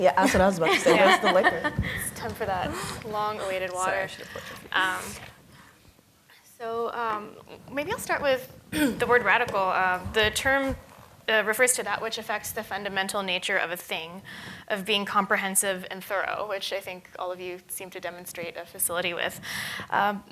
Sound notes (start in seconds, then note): 0.6 laughs